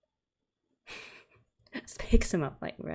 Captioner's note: laughs